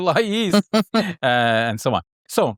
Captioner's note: laughing